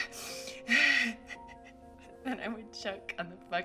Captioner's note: laughs